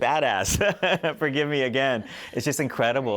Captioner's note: laughter